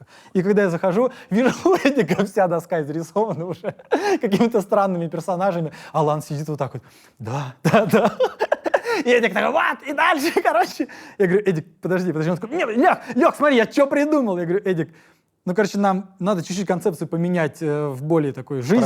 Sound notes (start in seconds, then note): 7.6 laughs